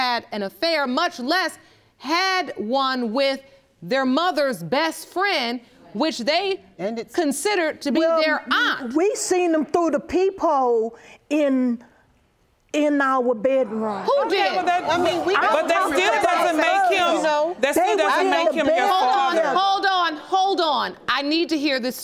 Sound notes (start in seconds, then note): 13.8 audience exclaiming; 14.7 all clamoring